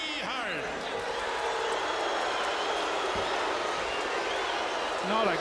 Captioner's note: audience jeering